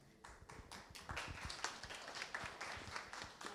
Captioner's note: clapping